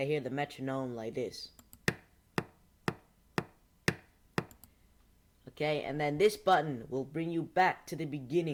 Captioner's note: annoying metronome sounds